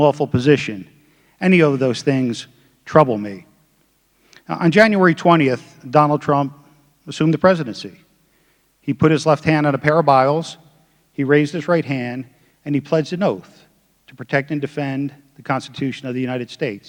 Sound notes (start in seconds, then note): none